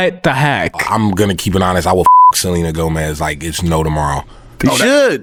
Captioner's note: beep